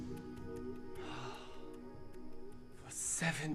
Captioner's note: sighing